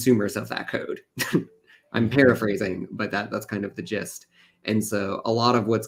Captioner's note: laughs